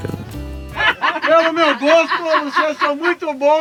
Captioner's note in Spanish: risas